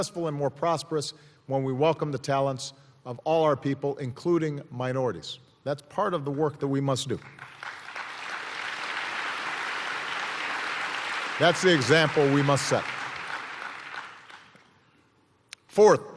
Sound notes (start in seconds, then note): 8.1 applause